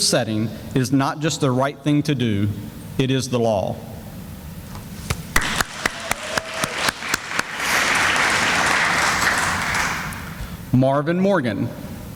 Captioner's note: sounds of applause